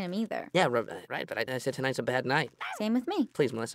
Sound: stammers

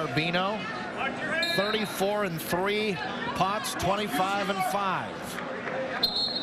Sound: whistle

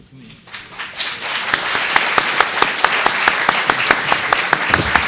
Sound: audience applauds

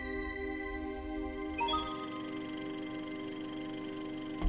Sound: 64-bit coin sound; projector whirring

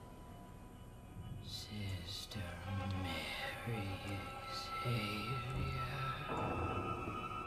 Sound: in deep, demonic voice

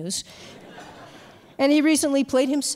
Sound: audience laughs

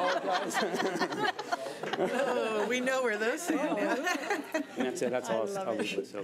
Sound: board laughing

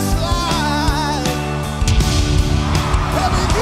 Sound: cheers and applause

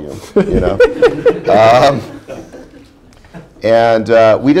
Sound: laughter

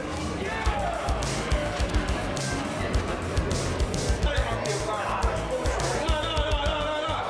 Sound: people chattering; upbeat music

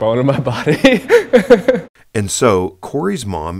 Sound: chuckles

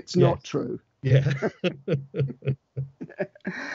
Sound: laughs

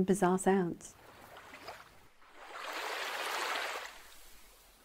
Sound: splashing water

